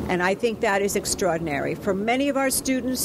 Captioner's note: none